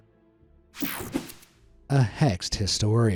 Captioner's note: screen whooshing